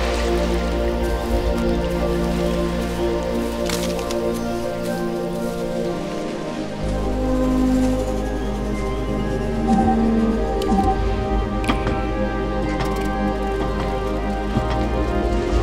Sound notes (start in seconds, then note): 0.8 water trickling; 9.6 beeping; 12.6 footsteps